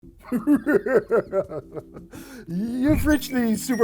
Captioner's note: spooky laughing